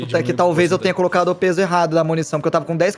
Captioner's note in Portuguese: none